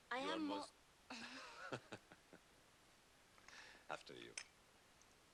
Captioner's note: laughs